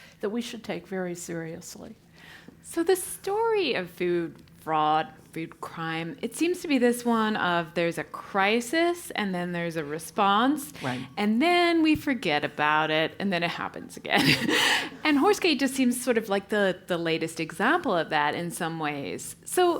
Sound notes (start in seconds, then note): 14.2 laugh